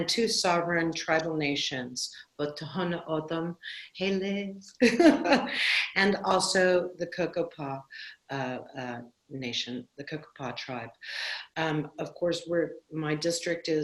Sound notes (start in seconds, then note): 4.8 laughter